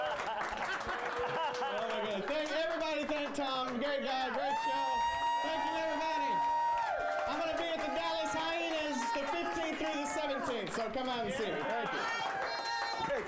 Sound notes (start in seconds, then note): 0.0 audience cheers; 5.2 audience cheers; 9.1 audience cheers